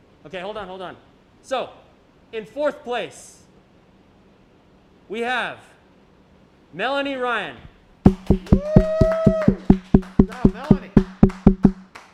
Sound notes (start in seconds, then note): 8.7 applause